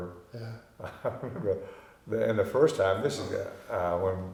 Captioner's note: chuckling